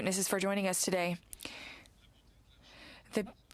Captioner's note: speaking french